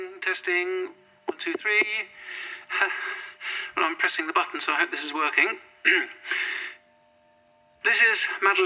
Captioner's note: nervous laugh